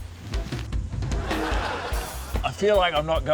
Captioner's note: laughter